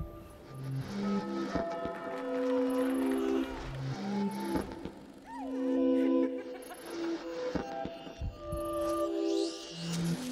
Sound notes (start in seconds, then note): 0.2 bells tolling; 3.1 baby crying